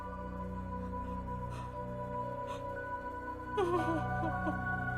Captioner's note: Veronica sobbing